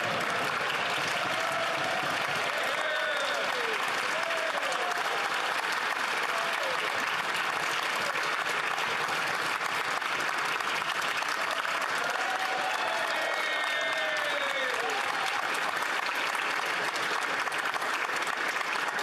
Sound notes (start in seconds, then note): 1.0 applause; 7.0 cheering